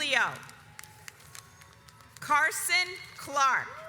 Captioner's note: audience applauds